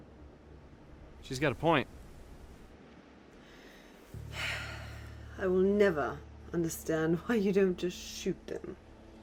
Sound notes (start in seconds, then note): 4.1 sighs